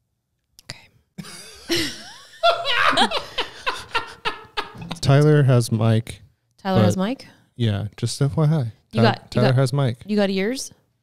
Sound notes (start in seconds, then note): 1.2 all laughing